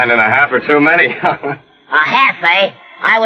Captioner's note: laughs